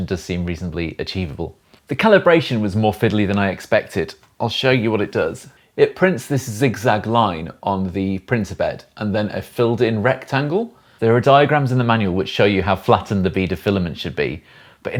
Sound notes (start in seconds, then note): none